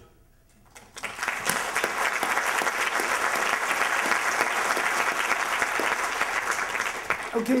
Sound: applause

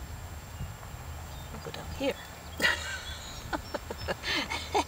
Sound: chuckle

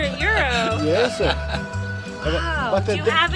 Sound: laughter

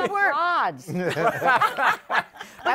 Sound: laughter

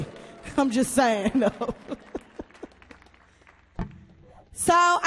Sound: chuckles

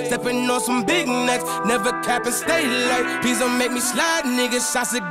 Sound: beep

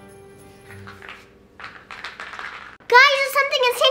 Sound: bubbles popping rapidly

